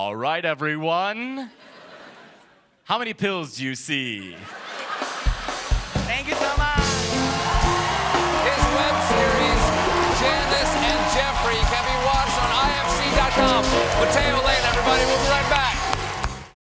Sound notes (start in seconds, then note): 10.0 cheers and applause